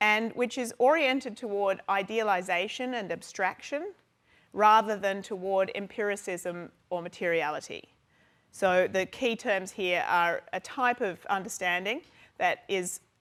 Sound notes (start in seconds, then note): none